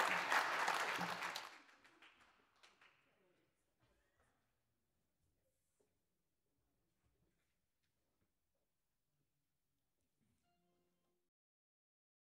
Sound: applause

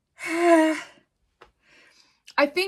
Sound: sighs

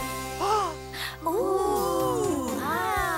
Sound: gasping

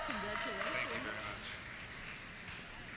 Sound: voiceover

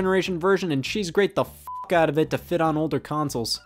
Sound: beep

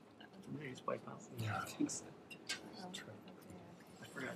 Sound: quiet chattering

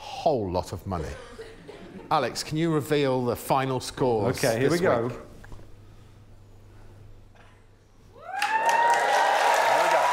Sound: cheering and applause

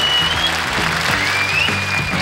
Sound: audience applauds; bright rock music

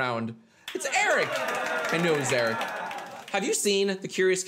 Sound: applause

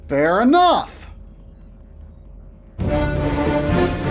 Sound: game Audio

